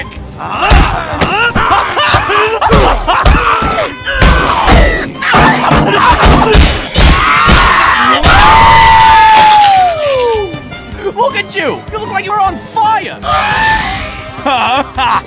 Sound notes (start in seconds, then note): 4.6 clang clong clang; 4.6 crit - crit - clang; 8.5 splattering